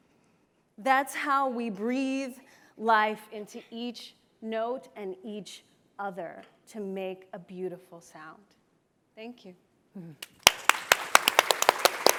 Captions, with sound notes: that's how we breathe life into each note, and each other to make a beautiful sound. Thank you. [Applause]